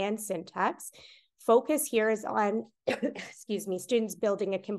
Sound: coughs

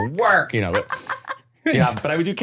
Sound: laughing

